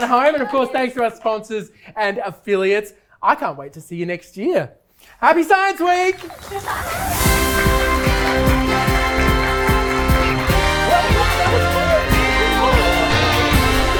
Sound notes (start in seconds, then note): 10.8 group chattering